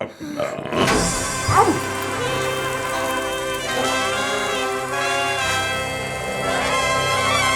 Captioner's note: fox grunts